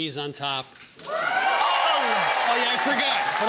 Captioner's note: audience cheering